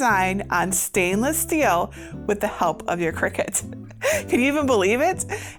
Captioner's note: laughs